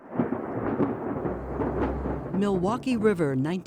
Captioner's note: lightning crackles